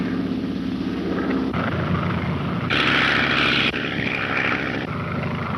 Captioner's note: engine droning